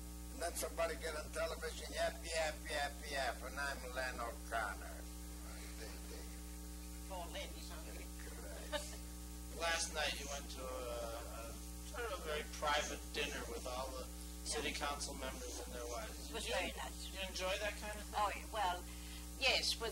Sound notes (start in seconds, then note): 4.7 laughing